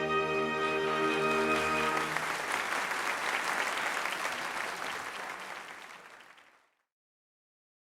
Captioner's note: applause